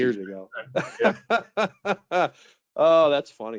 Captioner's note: laughing